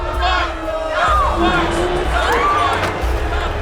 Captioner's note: crowd booing; Barbara screaming